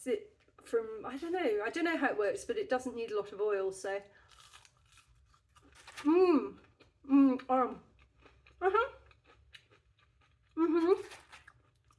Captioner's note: crunch; happy mouth noises